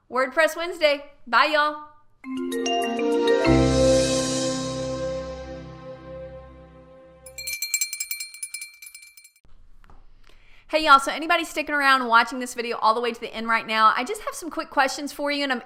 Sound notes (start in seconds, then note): 2.2 mellow electronic music; 7.1 bell ringing